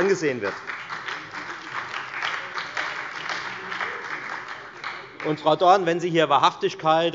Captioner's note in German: Beifall bei der FDP und bei Abgeordneten der SPD